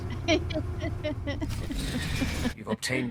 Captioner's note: laughter